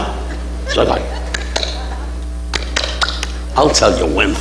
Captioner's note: all clapping hands